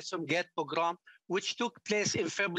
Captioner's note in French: voix de l'interprète